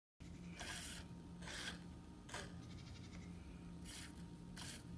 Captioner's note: milk squirting into bucket